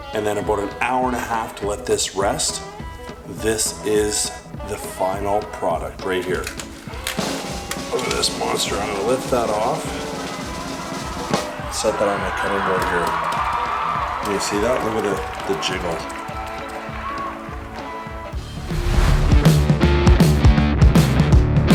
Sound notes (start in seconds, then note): 13.8 people cheering; 18.7 upbeat rock music